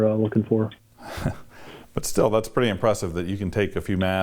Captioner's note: chuckles